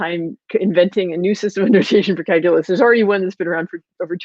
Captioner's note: voice muffled